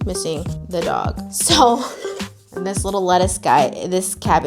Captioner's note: chuckles